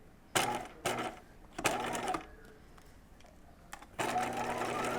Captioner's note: sewing machine whirring